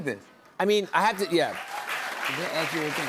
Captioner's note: cheers and applause